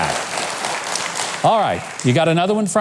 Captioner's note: audience clapping